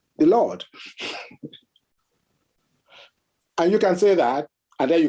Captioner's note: chuckles